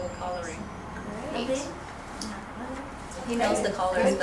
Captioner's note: voiceover